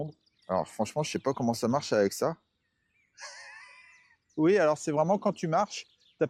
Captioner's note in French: rires